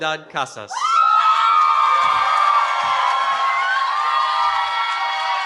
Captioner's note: cheering